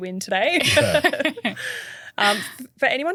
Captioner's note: everyone laughing